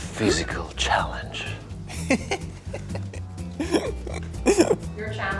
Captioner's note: interviewee laughing